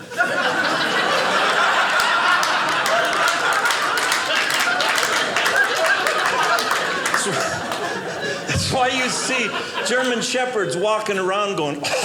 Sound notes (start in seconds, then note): 0.1 audience laughing; 3.5 audience applauding; 11.8 choking